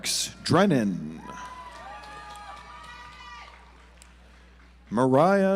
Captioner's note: audience applauds